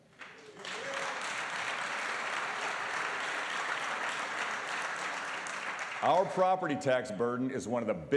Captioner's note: applause